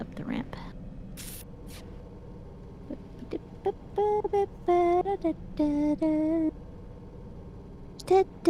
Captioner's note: humming